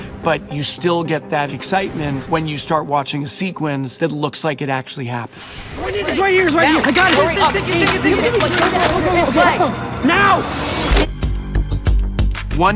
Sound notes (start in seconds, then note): 6.4 all shouting; 10.6 dynamic music